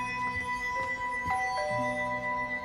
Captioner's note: doorbell rings